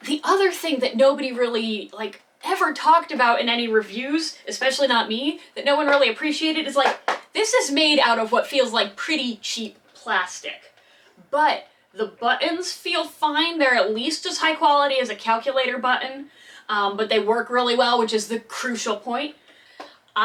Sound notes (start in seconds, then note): none